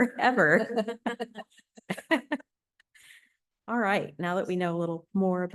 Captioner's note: laughter